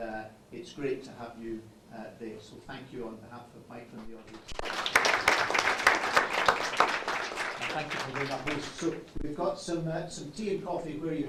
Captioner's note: applause